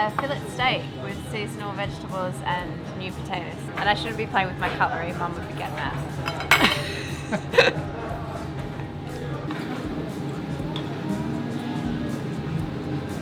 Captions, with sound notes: - Filet steak with seasonal vegetables and new potatoes. And I shouldn't be playing with my cutlery Mum would get mad. (laughing)